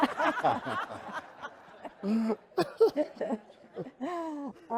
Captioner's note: audience laughing